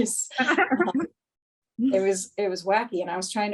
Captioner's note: both laughing